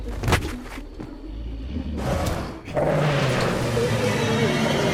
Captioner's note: Terry roaring; tense music rising